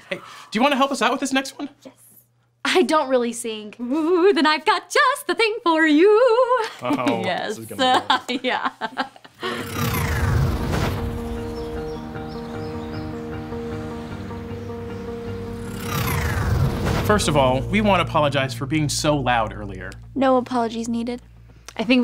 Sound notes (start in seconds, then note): 7.2 clapping; 7.8 laughing; 11.2 cheerful instrumental music